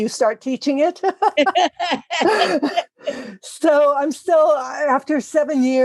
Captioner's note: laugh